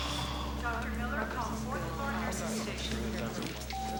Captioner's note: woman over PA system